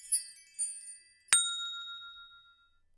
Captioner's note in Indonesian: Bell